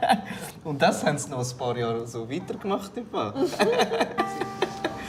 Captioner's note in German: Lachend